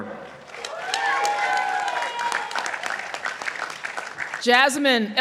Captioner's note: participants applauding